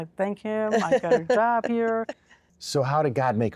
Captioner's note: giggling